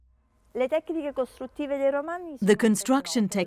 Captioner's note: speaking in foreign language